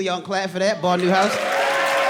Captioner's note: audience cheering and applauding